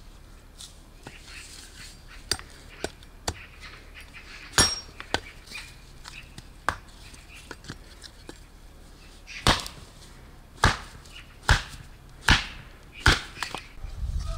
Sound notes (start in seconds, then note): 0.9 bird sings